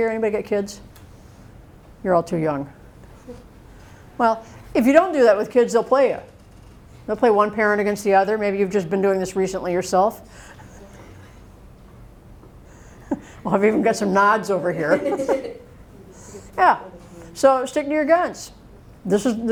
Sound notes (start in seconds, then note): 10.6 chuckles; 14.8 laughter